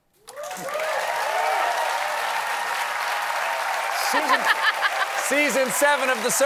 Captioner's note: cheers and applause